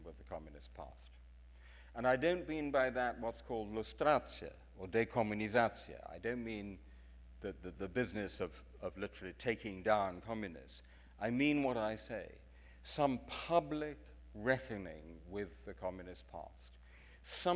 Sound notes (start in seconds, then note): 4.1 speaks in foreign language